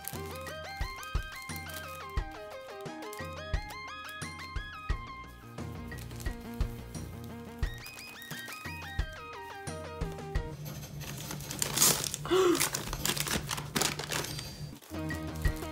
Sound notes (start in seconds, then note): 10.9 paper ripping; 12.2 gasp